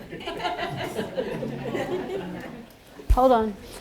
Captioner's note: laughter